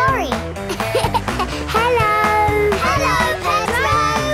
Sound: laughing

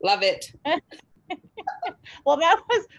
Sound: laughs

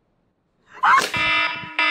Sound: screams; phone alarm

